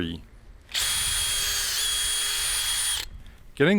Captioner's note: drill whining